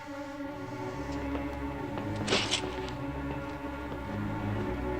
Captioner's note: footsteps approaching